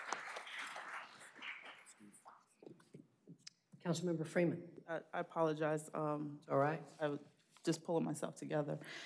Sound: applause

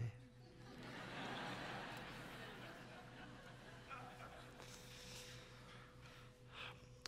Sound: laughter

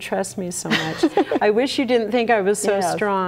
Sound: chuckles

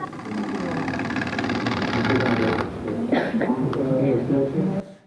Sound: vibrating sound

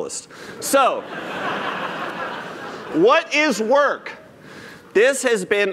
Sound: laughter

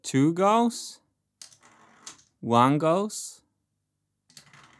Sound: marble rolling

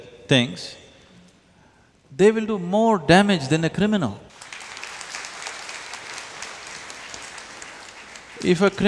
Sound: applause

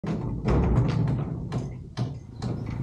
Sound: gate clanking open

